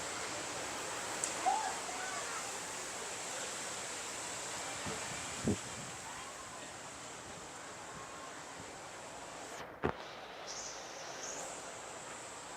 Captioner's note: noise of water